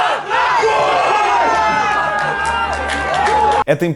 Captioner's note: cheering, applause